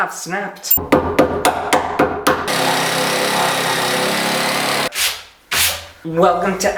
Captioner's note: construction Sounds